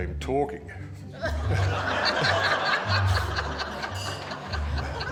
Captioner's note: all laughing